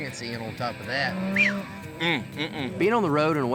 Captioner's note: whistles